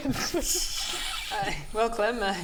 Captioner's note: nice try laughter